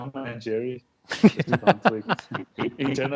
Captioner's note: laughs